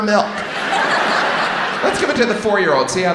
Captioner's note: audience laughs